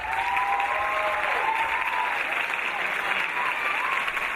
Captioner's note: audience cheering